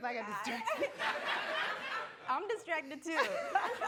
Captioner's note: laughing